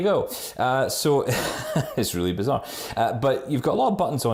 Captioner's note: laughs